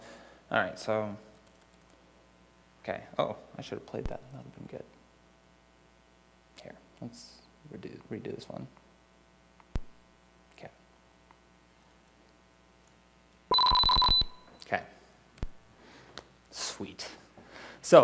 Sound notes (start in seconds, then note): 13.5 tones playing